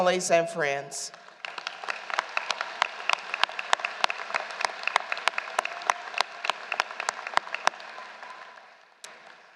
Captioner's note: applause